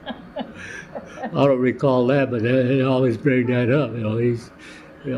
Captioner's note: laughter